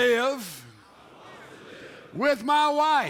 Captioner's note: men repeat